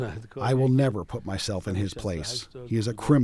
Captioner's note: through translator